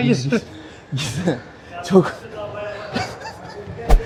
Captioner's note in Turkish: kahkaha